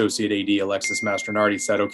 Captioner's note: pinging